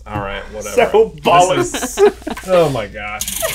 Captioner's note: laughs